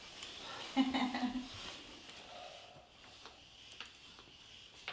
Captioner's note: woman laughs